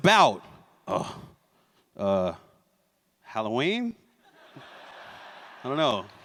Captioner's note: laughter